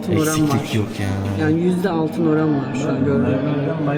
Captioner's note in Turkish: boğazını temizler